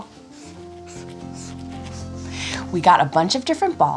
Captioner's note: pen scribbling